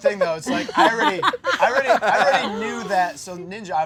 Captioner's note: laughter